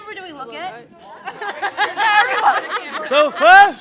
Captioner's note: laughter